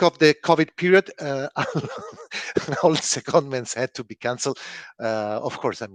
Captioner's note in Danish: laughs